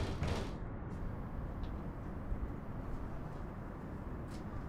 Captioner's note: Sally knocking on door